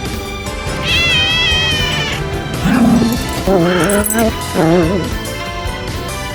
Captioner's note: Caprice hisses; Caprice meows; Ella growls